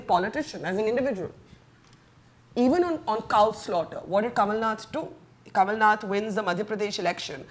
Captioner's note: none